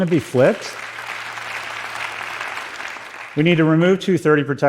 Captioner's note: applause